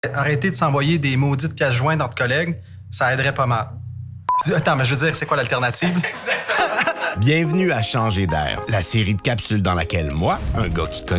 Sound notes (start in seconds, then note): 5.6 laughs